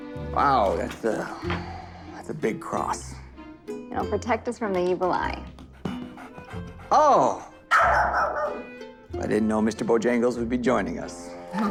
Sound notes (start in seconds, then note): 5.5 dog panting; 7.6 dog barking